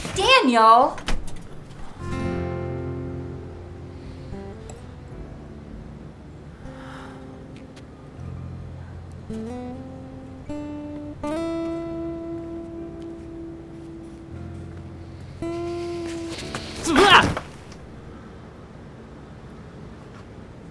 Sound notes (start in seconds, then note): 6.6 sigh